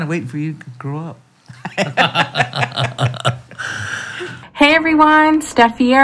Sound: laughs

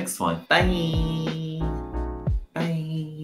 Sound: silly voice

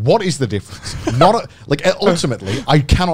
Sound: laughing

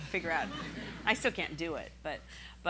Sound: laughing

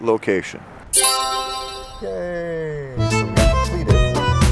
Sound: Adventure Lab completion sound

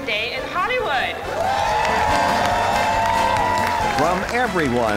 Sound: crowd cheering

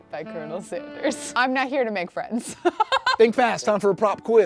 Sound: laughs

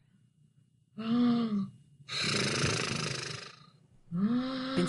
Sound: Bin-san loudly snoring and murmuring in their sleep

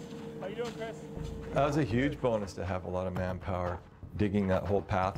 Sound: voiceover

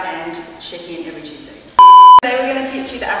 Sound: beep

